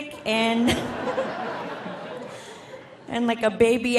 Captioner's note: audience laughing